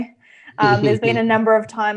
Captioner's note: laughs